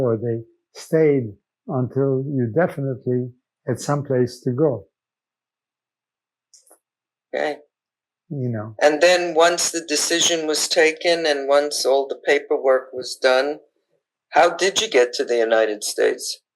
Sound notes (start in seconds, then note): none